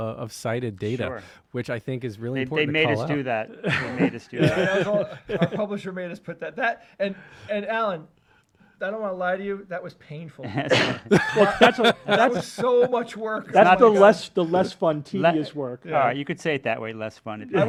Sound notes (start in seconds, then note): 10.4 chuckles; 10.4 laughs